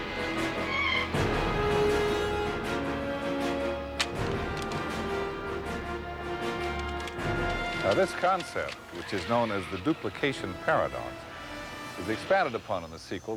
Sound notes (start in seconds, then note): 0.4 tires squealing